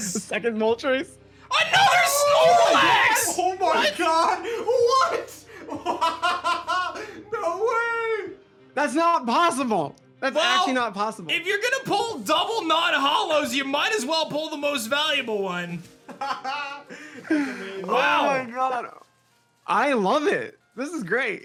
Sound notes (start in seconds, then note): 5.5 laughs; 16.1 laughs